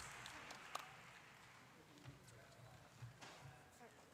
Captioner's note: applause